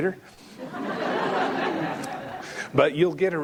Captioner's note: audience laughing